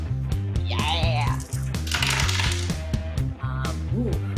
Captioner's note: dice clangs